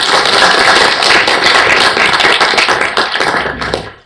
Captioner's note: applause